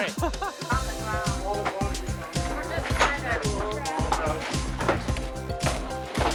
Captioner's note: chatter